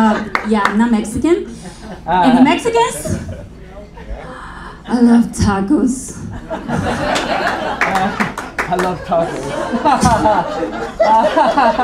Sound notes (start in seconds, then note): 6.3 audience laughing; 10.7 laughing